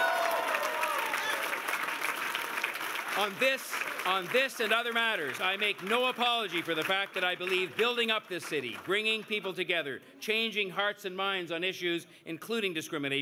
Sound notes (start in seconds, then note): 2.7 cheers and Applause